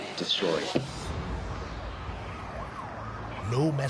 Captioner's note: siren wailing in distance